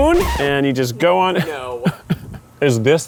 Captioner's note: laughs